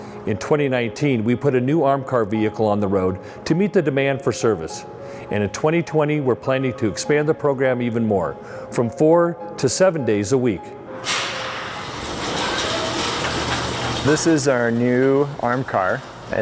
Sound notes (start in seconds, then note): 11.0 garage door opening